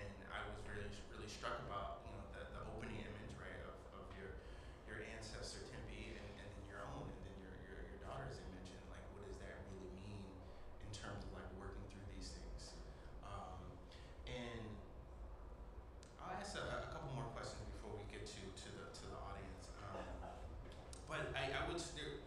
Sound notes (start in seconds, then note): 8.3 voice Low